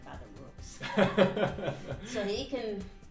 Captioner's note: man laughing